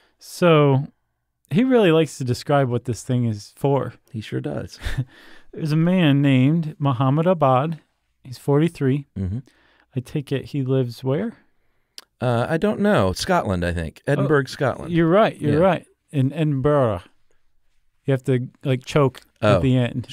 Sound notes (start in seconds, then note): 4.8 chuckles